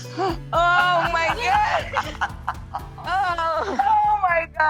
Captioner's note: laughs